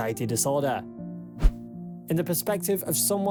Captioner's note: screen swishes